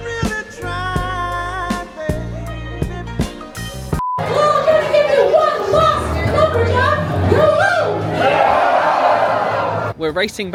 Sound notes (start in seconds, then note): 4.0 beep; 8.3 crowd yelling